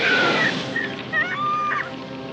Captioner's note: screaming